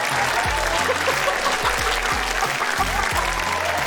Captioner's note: laughs